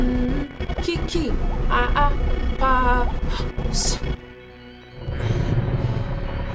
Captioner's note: Wumni chants; static rustling continues